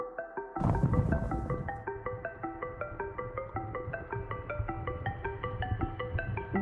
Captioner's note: volcano rumbling